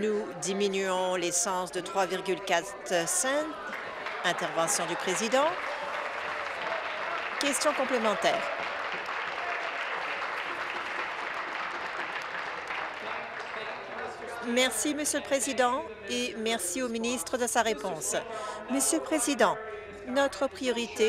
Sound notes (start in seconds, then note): 8.9 applause